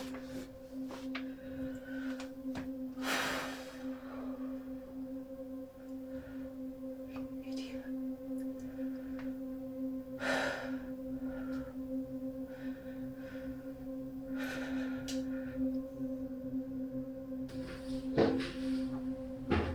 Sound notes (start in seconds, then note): 10.3 Lauren sighs